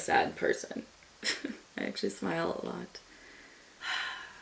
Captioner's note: chuckles; sighs